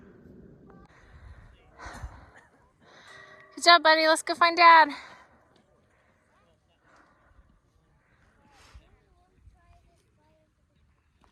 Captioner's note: breathing heavy at the summit of Sassafras